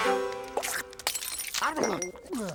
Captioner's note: glass breaks